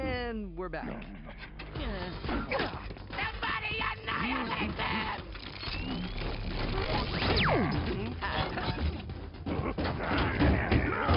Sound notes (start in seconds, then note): 5.3 whirring; 7.3 laser fire; 9.4 grunting